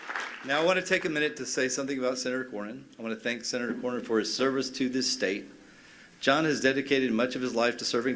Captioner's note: cheers and applause